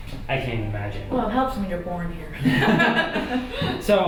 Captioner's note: laughter